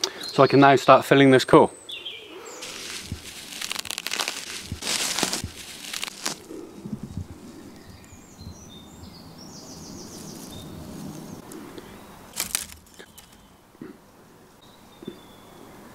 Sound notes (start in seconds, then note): 2.6 dry, fibrous tearing sounds; 12.3 dry snapping sound